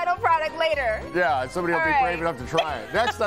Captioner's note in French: laughter